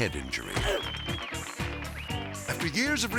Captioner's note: leg thudding